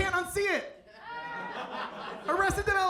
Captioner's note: audience laughs